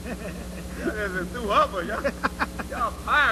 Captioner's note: laughter